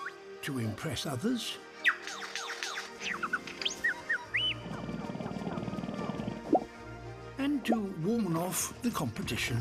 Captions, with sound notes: ...to impress others... (CHIRPING, WHISTLING) (RUMBLING, POPPING) ...and to warn off the competition.